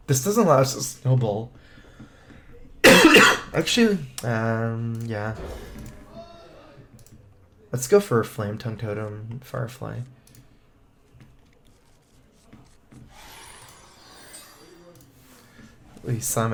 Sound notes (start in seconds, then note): 2.8 cough cough